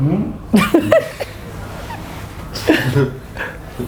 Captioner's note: laughing